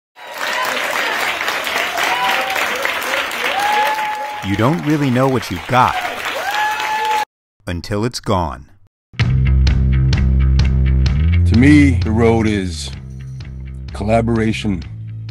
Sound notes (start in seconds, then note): 0.1 applause; 9.2 upbeat rock music